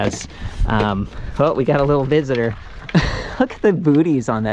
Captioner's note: laughs